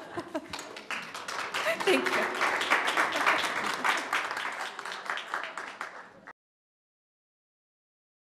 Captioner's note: applause